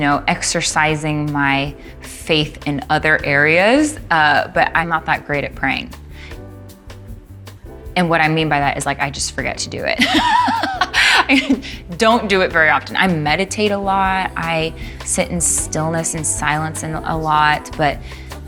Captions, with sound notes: YOU KNOW, EXERCISING MY FAITH IN OTHER AREAS, BUT I'M NOT THAT GREAT AT PRAYING. AND WHAT I MEAN BY THAT IS, LIKE, I JUST FORGET TO DO IT. (LAUGHING) I DON'T DO IT VERY OFTEN. I MEDITATE A LOT, I SIT IN STILLNESS AND SILENCE A LOT.